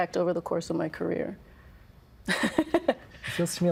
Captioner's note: laughing